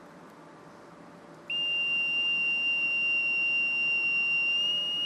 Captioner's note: pipe whistling